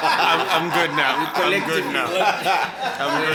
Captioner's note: everybody laughs